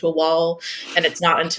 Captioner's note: laughs